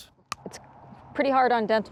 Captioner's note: crunch